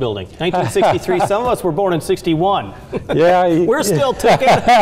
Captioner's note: laughing; laughing